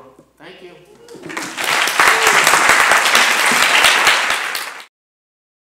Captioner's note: audience applauding